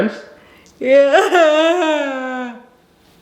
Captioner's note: laughing